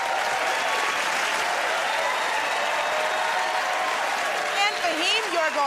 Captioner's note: cheers and applause